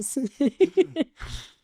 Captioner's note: laughing